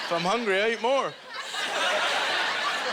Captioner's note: audience laughter